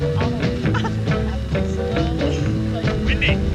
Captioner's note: laughs